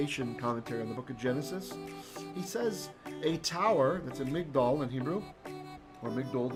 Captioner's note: Hebrew